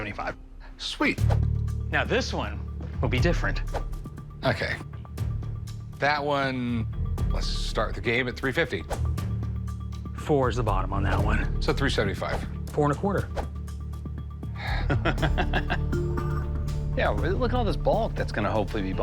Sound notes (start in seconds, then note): 14.5 sighs; 14.6 laughs